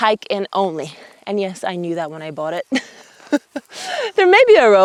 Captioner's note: chuckles